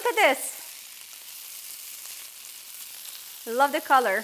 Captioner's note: sizzling